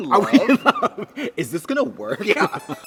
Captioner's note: Katya laughs